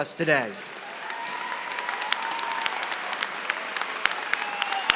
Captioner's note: applause